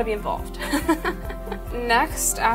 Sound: laughs

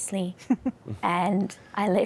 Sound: giggling

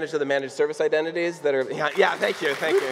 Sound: clapping

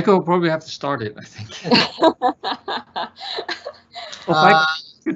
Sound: laughs

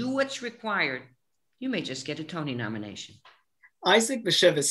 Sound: none

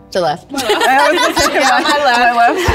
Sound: all giggling

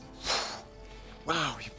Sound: exhales sharply

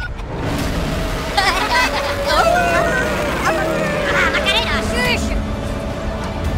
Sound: Minus One Godzilla roars

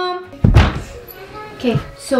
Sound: door opens

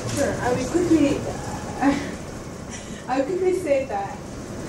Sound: laughs

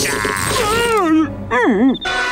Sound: screaming

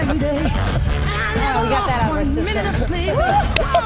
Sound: laughter

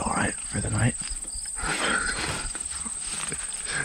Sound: laughing

